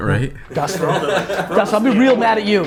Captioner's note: laughs